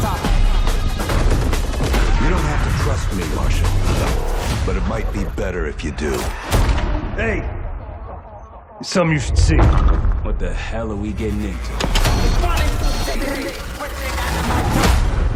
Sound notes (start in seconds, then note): 14.7 distorted yelling